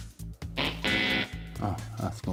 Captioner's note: wrong answer noise